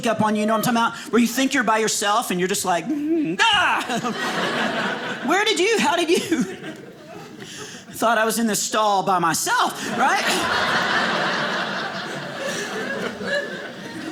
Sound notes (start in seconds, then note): 3.5 screams; 9.8 audience laughing